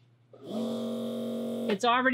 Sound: machine hums

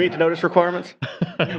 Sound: laughter

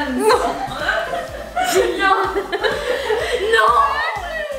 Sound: laughing

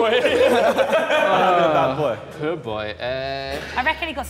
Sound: Sidemen laughing

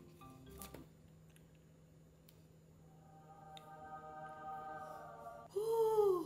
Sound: bright music continues; cake plops

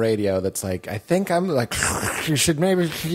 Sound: static sound

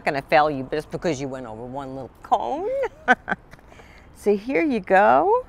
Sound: chuckles

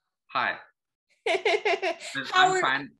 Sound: laughing

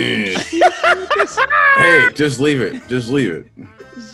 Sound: laugh

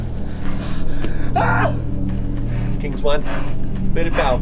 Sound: screams

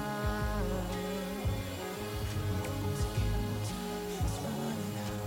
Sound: echoing

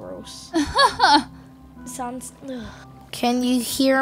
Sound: laughing

